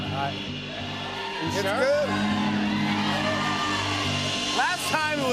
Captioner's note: audience shouting